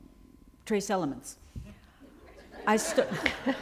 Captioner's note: laughter